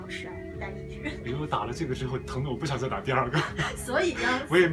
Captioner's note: laughs